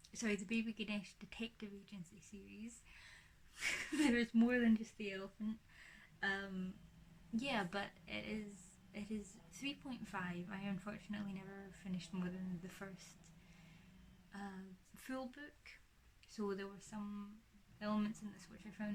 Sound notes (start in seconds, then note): 3.6 laughs